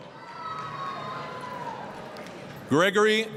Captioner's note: applause, cheering